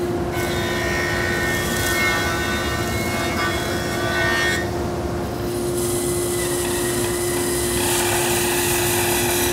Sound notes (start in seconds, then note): 0.3 machine whirring; 6.0 machine whirring